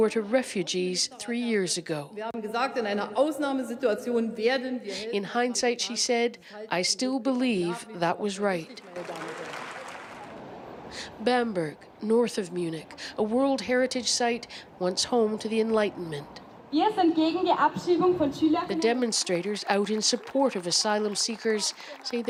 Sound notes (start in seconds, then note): 8.1 speaking foreign language